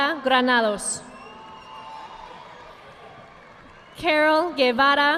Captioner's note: audience clapping